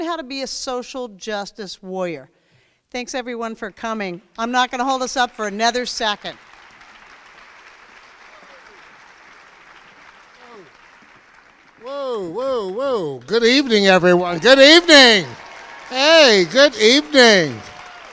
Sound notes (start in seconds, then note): 6.0 crowd applauds